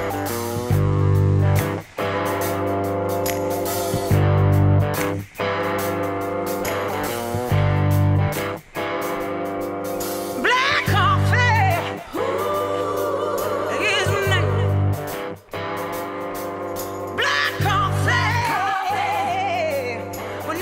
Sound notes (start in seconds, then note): 0.1 upbeat music; 11.6 whoo